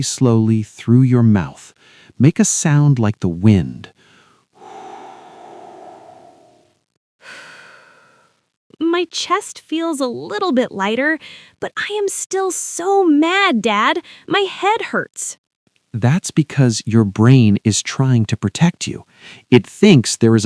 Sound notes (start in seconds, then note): 7.2 exhales slowly; 7.4 exhales